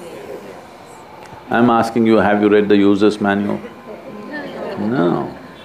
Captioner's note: laughter; 笑聲